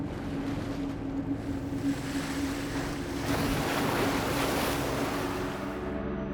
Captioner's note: ethereal music; waves crashing